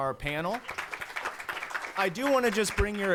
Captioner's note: applause